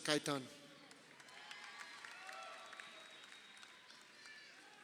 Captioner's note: crowd cheering